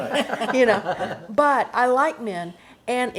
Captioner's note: laughs